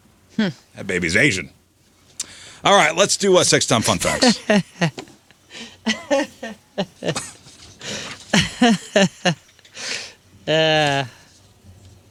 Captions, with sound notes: Hmm. That baby's Asian. All right, let's do a six-time fun facts. (laughing)